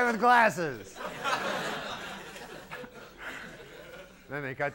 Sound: laughs from audience

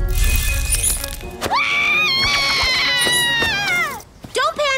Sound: screams

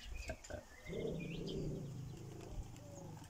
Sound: Gilbert growls

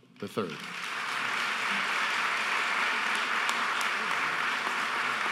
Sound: audience applauding

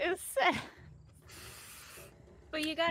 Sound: laughing

